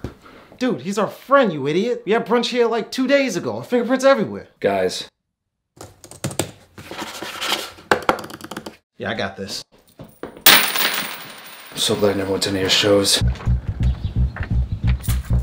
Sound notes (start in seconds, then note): 5.5 moving computer mouse; 10.4 coins hitting floor; 13.2 intense music